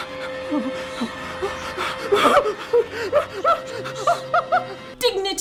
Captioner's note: whimpering